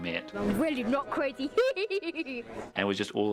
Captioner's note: laughing